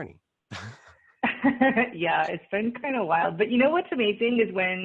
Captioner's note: laughs